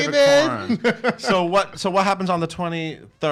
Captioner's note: laughs